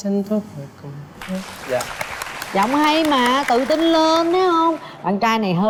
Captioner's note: applause